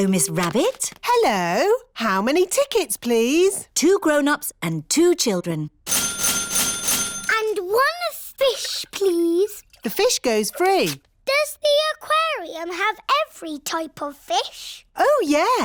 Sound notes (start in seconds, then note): 5.8 dinging